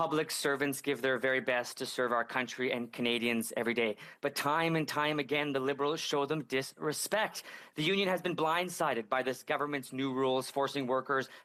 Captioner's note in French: voix de l'interprète